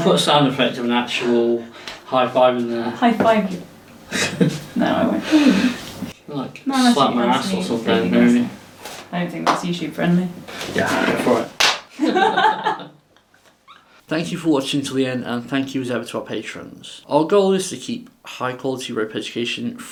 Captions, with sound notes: - We'll put a sound effect of an actual high five in there. - High five. No, I won't. - Like, you could slap my ass or something. - I don't think that's usually friendly. - Yeah, go for it. (Both laugh) Thank you for watching to the end and thank you as ever to our patrons. Our goal is to keep high quality rope education